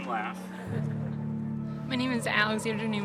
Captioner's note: attendees chuckling